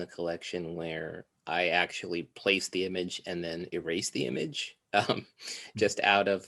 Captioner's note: chuckles